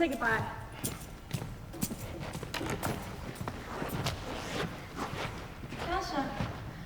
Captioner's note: footsteps exiting with keys jingling